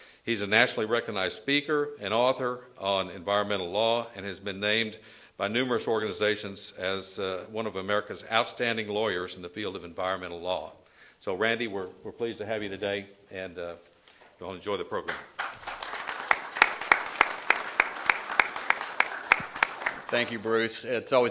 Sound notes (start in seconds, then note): 18.2 applause